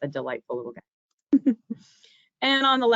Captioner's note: giggling